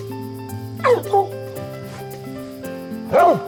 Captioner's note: barking